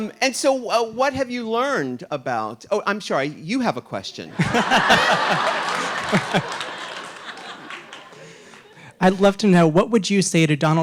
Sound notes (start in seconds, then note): 4.3 audience laughing